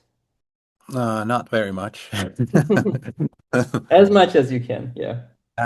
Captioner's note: both laughing